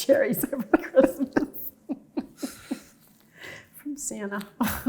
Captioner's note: both chuckling